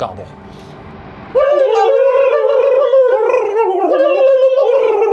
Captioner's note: both imitating turkeys